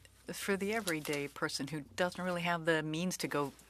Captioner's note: speaking French